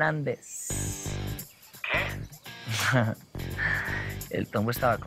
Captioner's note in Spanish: Ríe